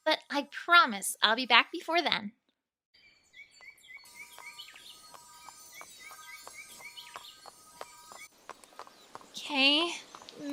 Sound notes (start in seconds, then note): 3.0 birds chirping; 5.0 hooves Clopping